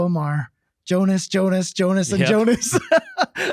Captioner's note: laughing